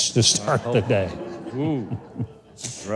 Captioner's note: crowd laughing